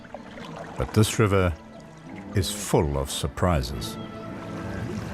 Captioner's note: animals calling